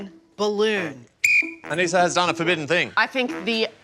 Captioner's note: blows whistle